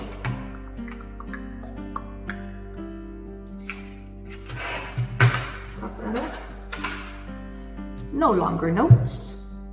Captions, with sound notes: [CLICKS TONGUE] POP THAT UP NO LONGER NOTES